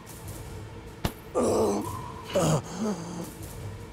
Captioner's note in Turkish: İnleme sesi